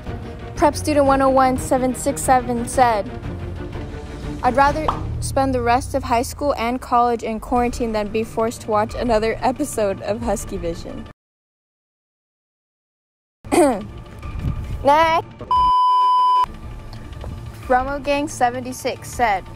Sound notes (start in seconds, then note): 13.5 cough